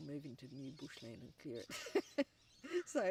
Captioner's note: laughs